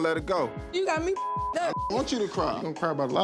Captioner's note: beep